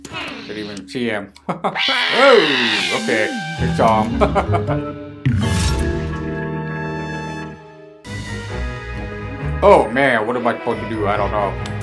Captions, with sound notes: He didn't see him. [Chuckles] Whoa! Okay He saw him. [Chuckling] Oh man, what am I supposed to do. I don't know